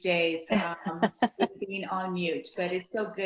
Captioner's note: laughs